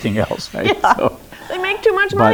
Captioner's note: chuckles